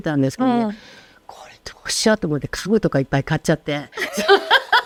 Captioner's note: laughs